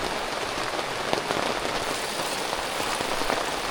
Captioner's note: rain